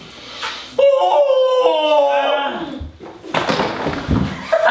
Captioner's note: Thudding; हंसते हुए